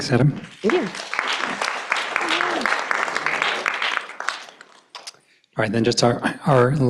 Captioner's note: applause